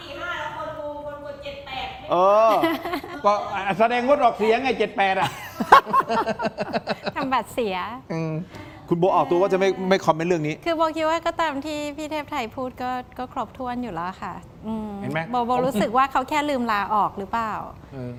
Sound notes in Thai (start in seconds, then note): 2.4 เสียงหัวเราะ